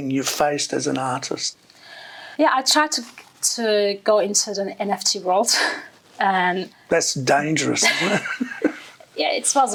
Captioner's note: laughing